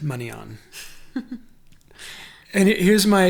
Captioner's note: laughs